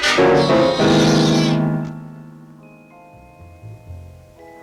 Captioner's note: cat yowling